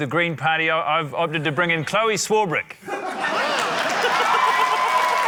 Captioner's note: laughter; cheering, applause